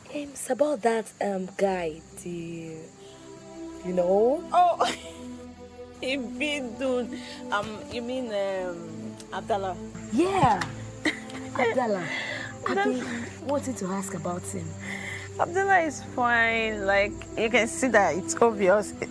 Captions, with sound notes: - It's about that guy, you know? - Oh. (laughing) (speaking in foreign language) You mean Abdullah. - Yeah. Abdullah. I've been wanting to ask about him. - Abdullah is fine. You can see that it's obvious.